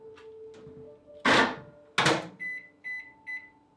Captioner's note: microwave door opening; door closing, timer being set, beeps